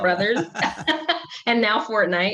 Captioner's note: all laughing